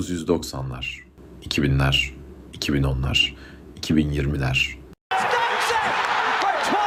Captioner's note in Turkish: coşkulu tezahürat